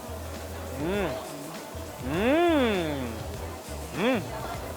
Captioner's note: moans